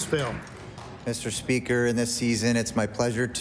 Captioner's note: applause